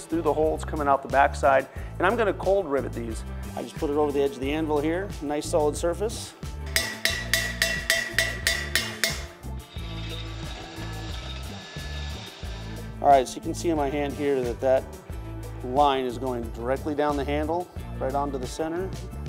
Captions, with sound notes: through the holds coming out the backside and I'm gonna cold rivet these, I just put it over the edge of the anvil here nice solid surface. (metal clangs) (drill grinds) All right, So you can see in my hand here that that line is going directly down the handle right onto the center